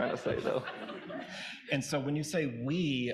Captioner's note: audience laughing